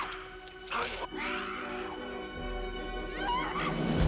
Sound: Holly screaming

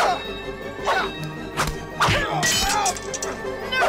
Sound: fighting noises

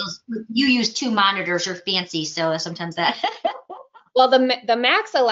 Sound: laughs

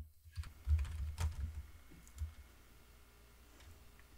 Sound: keyboard typing; mouse clicking

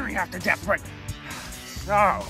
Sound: sigh

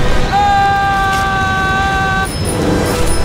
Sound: screaming; bike bell rings

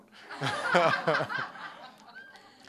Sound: laughter

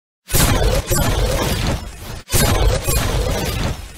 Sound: volley of Gunfire

